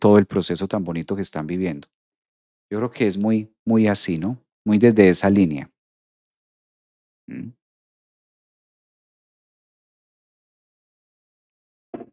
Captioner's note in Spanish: carraspeo